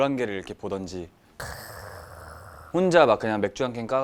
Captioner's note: ahhh